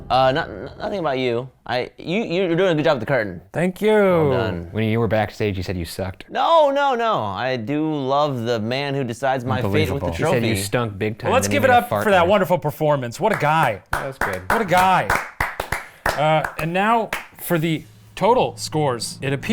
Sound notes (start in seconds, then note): 13.3 claps